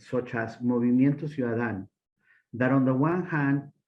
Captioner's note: speaking Spanish